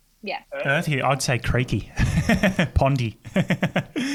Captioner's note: laughing